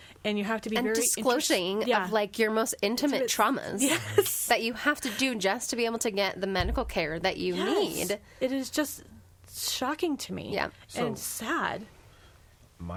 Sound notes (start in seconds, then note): 3.8 laughs